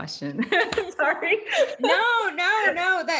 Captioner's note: laughs